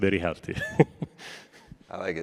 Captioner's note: laughs